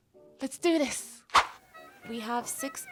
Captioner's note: woosh